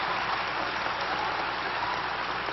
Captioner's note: applause